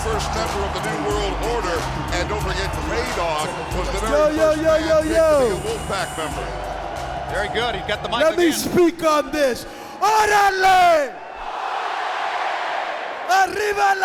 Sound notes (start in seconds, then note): 10.4 speaking in foreign language; 11.7 crowd cheering